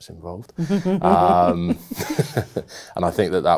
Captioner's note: both laughing